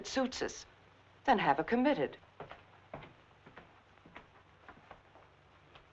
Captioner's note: footsteps thumping